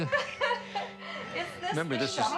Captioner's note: laughing